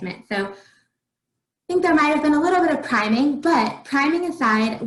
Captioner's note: faintly speaking